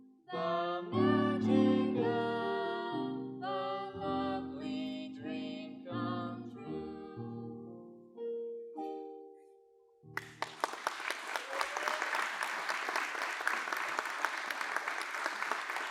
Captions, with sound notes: THE MAGIC OF A LOVELY DREAM COME TRUE [applause]